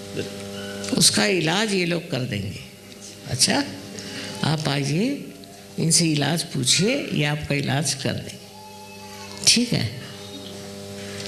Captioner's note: hindi